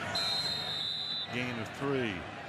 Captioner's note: whistle blowing